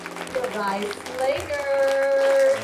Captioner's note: crowd applauds